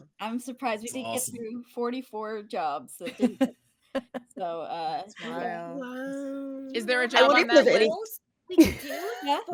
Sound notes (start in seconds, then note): 3.4 audio cutting out